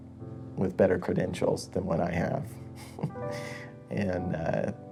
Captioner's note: laughs